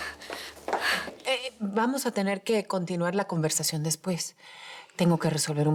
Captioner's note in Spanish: Jadeando